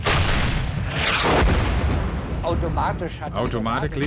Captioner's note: tank explodes; tank turret firing; speaking in foreign language